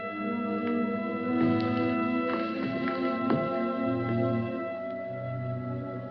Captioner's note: footsteps